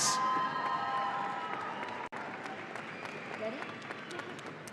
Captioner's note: audience applauding